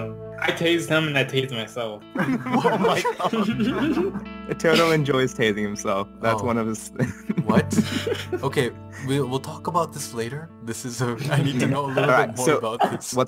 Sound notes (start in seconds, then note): 2.1 even More Laughter